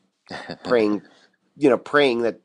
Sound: chuckles

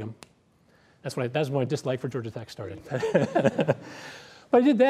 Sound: laughs

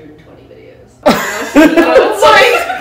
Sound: laughing

